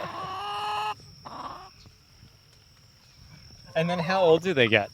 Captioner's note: both laughing; chickens clucking